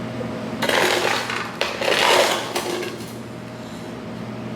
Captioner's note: scoop scraping